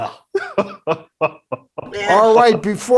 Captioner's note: male guest laughing